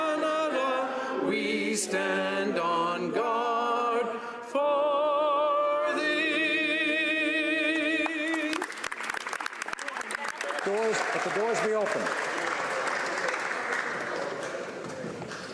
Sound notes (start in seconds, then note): 11.8 applause